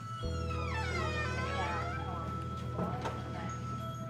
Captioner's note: door creaks